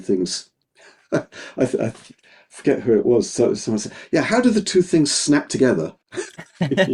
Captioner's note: laughing; both laughing